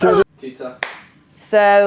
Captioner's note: humming; claps once